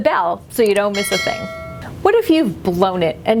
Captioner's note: bell clanging